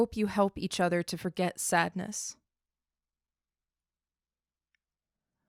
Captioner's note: silence